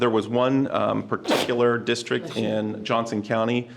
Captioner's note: someone sneezes